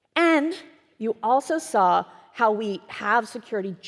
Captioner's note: none